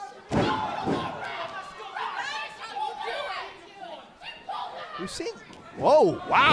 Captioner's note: crowd chatter